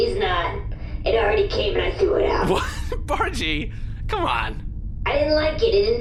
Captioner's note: laughs